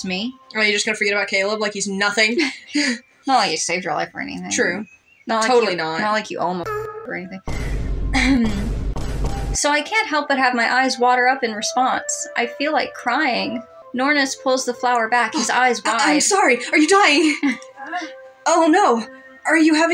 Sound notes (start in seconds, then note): 2.3 chuckle; 2.7 laugh; 7.4 Multiple Vine Booms; 15.8 chuckle